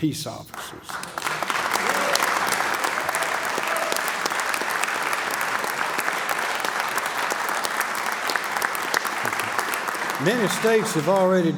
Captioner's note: applause